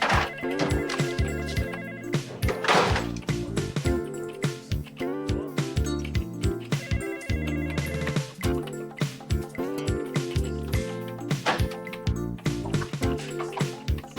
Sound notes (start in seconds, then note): 0.0 telephone ringing; 0.1 upbeat music; 2.2 drawer thudding; 4.0 upbeat music; 6.5 telephone ringing; 8.6 upbeat music